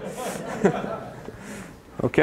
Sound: laughter

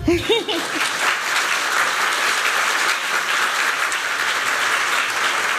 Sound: applause

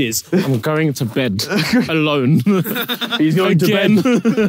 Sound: chuckles

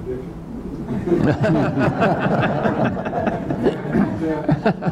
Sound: attendees laughing

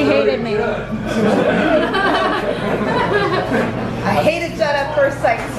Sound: laughing

